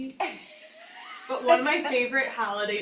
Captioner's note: laughs